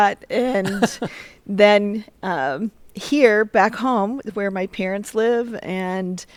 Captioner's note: laughter